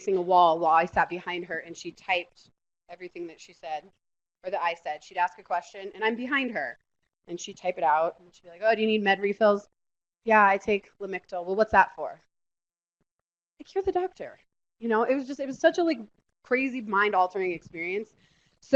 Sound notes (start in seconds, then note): none